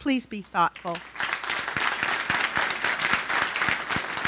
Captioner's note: applauding